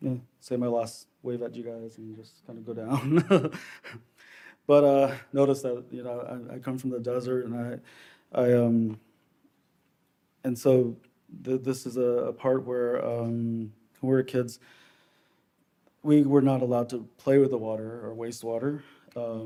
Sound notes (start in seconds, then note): 2.8 laughs